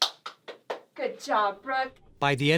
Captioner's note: clapping